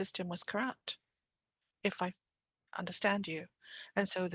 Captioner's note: speaking French